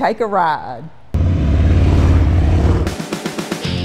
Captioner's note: motorcycles roaring; upbeat music